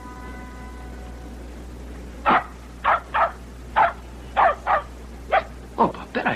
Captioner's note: barking